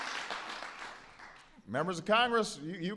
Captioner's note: applause